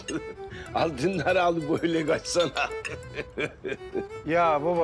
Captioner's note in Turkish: Gülüyor